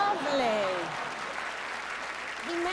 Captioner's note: applause